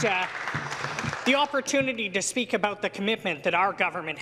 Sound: applause

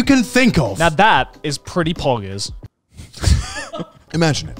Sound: laughs

